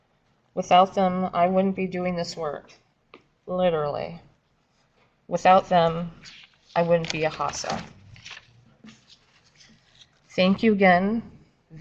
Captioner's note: papers shuffling